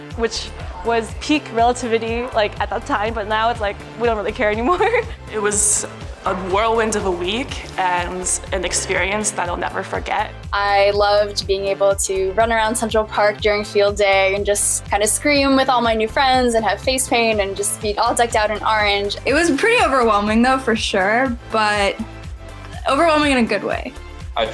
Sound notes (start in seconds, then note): 4.6 laughs